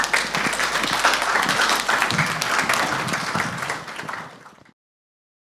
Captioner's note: audience applauding